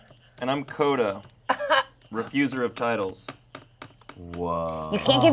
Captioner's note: guffaws